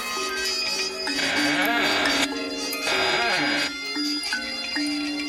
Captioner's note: insect buzzing; floor creaking